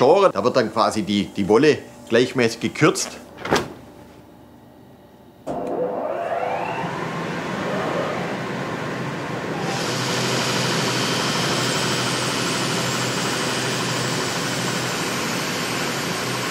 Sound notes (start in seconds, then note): 6.7 whirring and rattling of the shearing machine